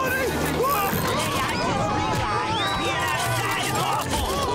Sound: screaming

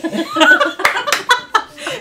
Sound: laughter

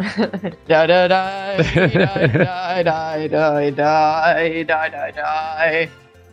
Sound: humming

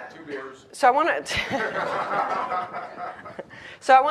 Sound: laughs

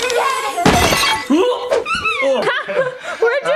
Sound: children laughing; toy crashing; children laughing

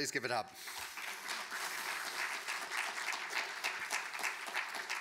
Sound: audience applauding

